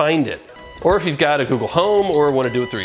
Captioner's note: remote beeping